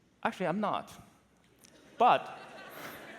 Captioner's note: laughter